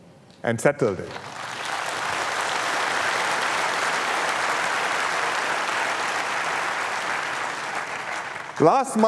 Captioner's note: applause